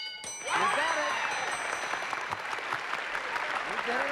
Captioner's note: cheering and applause